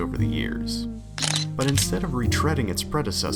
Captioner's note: camera shutter